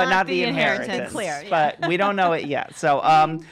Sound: laughs

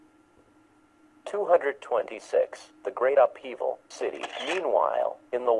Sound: shutter click sound

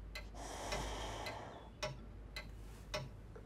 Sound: inhales; exhales

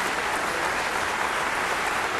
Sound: applause

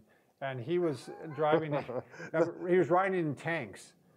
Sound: laughs

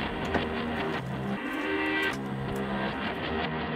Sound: door clicks

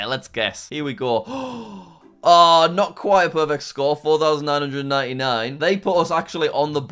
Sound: inhales sharply

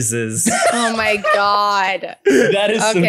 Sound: laughs

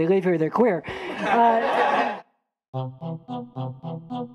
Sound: laughter

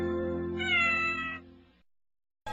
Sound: Mimsie mewing

